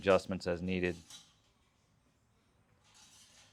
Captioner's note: silence